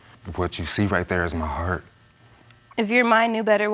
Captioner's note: voice breaking